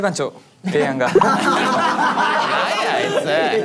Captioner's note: in high spirits